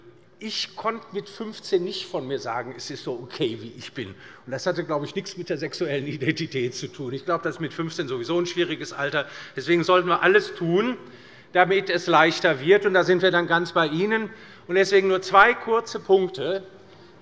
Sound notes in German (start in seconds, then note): none